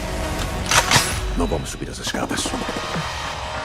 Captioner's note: cocks gun